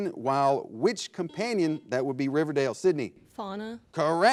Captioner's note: buzzer blares